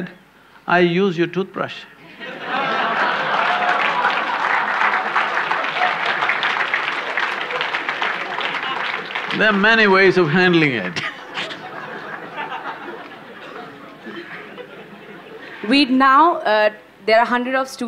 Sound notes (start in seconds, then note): 4.6 laughter/Applause; 10.1 laughter